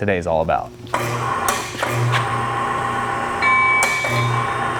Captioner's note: machine operating